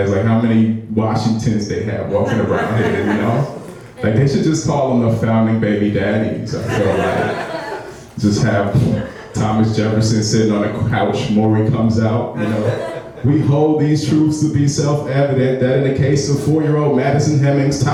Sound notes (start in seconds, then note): 6.6 laughing